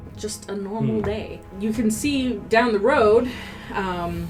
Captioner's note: sighs